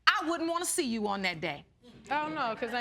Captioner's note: none